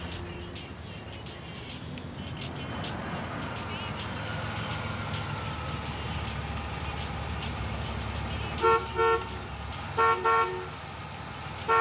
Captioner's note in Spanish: ruidos del tránsito